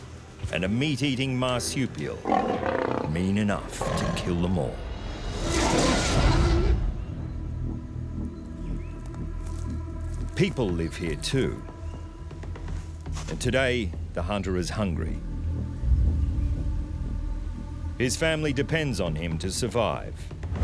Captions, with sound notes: And a meat eating marsupial... -[marsupial snarling] -...mean enough to kill them all. [marsupial roaring] [people footsteps] People live here too. And today the hunter is hungry. His family depends on him to survive.